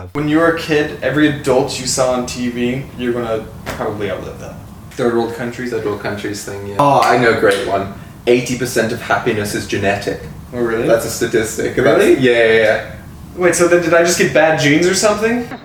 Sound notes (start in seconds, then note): 7.4 clapping